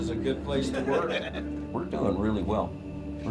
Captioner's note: group laughs